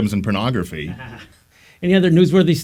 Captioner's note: chuckles